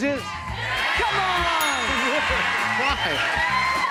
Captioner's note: bell dings